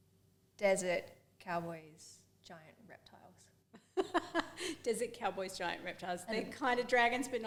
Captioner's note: laughs